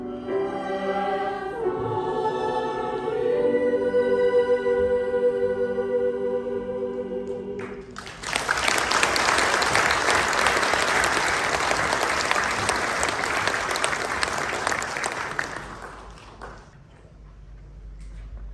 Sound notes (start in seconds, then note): 7.6 applause